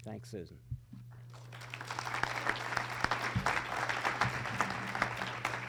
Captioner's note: audience applause